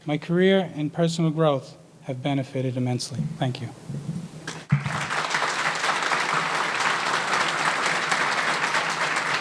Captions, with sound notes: my career and personal growth have benefited immensely, thank you. (audience applauding)